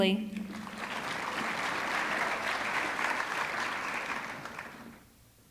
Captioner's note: audience clapping